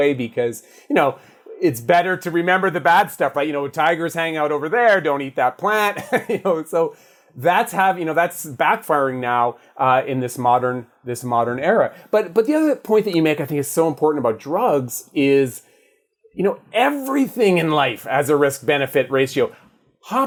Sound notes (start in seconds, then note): 6.1 laughs